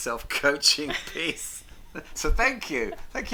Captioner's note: laughs